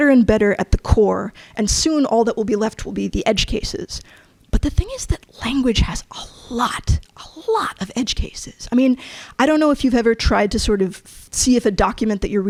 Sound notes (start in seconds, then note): none